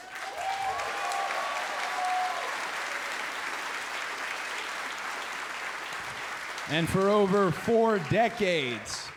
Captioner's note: crowd cheering